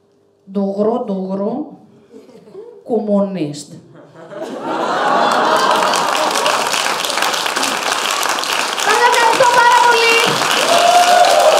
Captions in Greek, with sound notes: "ΝΤΟΥΓΡΟΥ - ΝΤΟΥΓΡΟΥ - ΚΟΜΜΟΥΝΙΣΤ" (ΓΕΛΙΑ ΚΑΙ ΧΕΙΡΟΚΡΟΤΗΜΑΤΑ) ΣΑΣ ΕΥΧΑΡΙΣΤΩ ΠΑΡΑ ΠΟΛΥ!